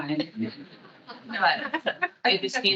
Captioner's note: attendees laughing